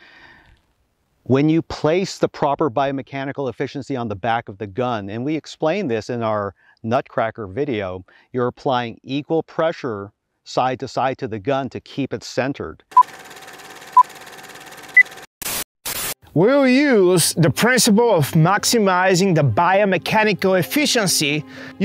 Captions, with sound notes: When you place the proper biomechanical efficiency on the back of the gun, and we explain this in our nutcracker video, you're applying equal pressure side to side to the gun to keep it centered. (film rolling) (beeping) - We'll use the principle of maximizing the biomechanical efficiency.